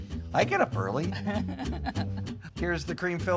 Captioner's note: laughs